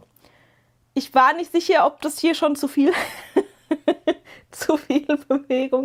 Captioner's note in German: gelächter